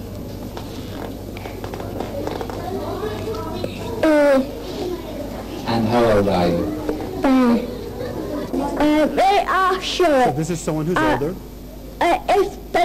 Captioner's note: child making sounds